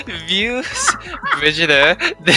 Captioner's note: more laughter